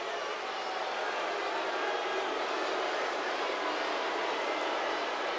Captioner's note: crowd booing